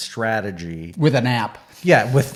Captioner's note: laughs